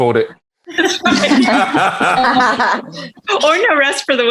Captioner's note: everyone laughing